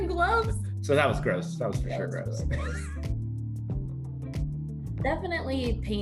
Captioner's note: laughter